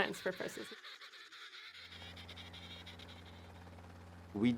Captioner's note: penguins chirping